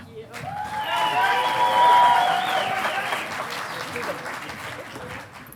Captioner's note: audience applauding